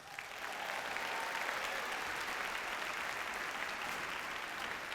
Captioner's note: audience cheers and applauds